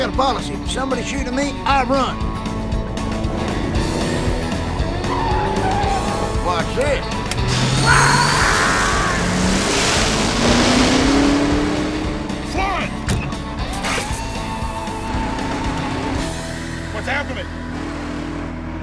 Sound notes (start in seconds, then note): 7.7 larry yells